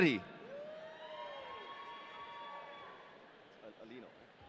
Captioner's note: audience cheering